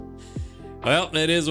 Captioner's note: laughing